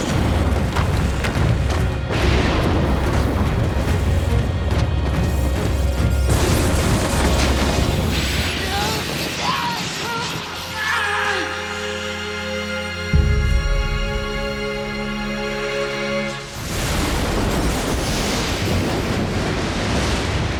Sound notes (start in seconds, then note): 8.6 screaming; 16.5 thundering